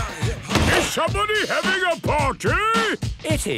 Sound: shouts

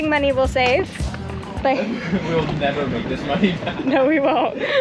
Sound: laughing

